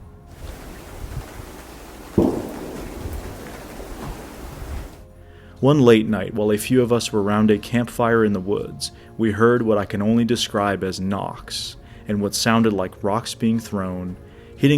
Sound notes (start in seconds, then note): 2.1 gunshot booming